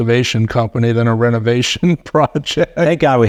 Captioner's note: laughing